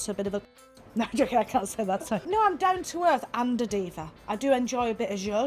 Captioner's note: laughing